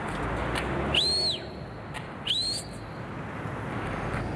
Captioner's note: Andy whistling